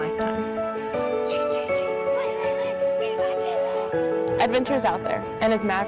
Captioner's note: woman speaking Spanish